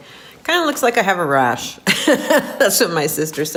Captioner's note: laughing